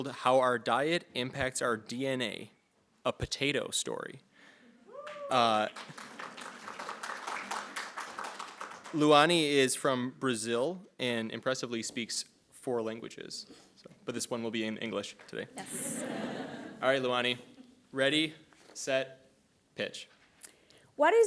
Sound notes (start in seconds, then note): 4.9 attendees clapping